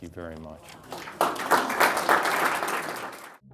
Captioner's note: applause